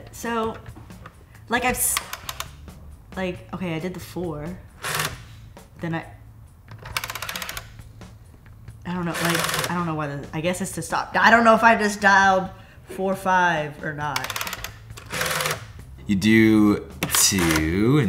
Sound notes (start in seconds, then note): 1.8 dial clicking; 6.7 dial clicking; 14.2 dial clicking and resetting; 17.0 dial turning